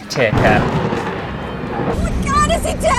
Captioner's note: thunder Clap!